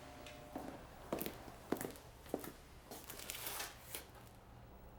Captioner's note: footsteps clomping